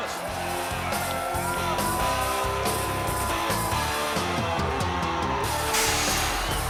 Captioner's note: crowd cheering; energetic music